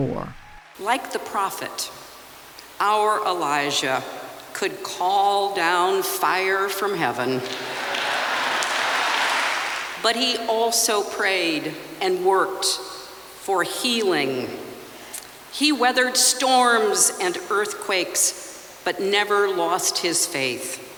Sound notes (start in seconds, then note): 7.4 cheering and applause